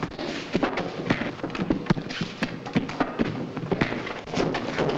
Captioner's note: men scuffling; blows landing